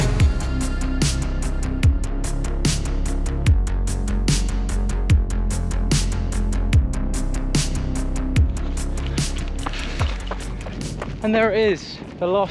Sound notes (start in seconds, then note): 10.0 gravel crunches